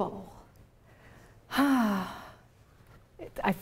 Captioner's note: sighing